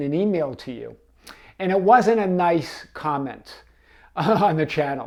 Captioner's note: chuckles